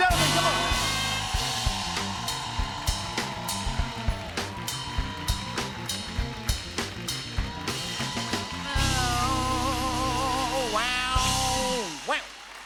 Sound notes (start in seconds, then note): 0.2 cheers and applause; 7.6 imitates guitar playing